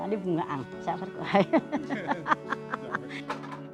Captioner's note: laughter!